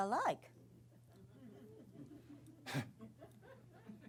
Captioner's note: laughter